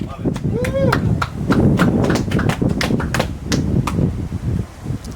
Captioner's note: clapping and cheering